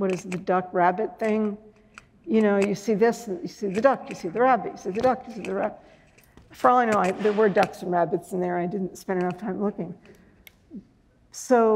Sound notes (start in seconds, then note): none